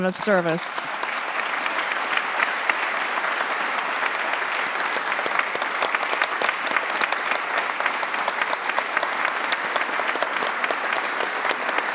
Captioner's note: applause